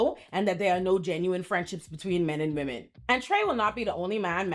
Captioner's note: none